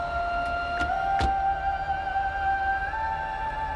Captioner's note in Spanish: Sonido al cerrar las puertas